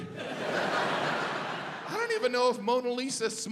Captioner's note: audience laughs